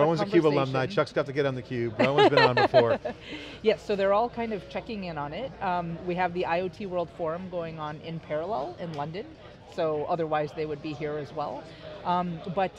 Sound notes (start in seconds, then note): 2.0 laughs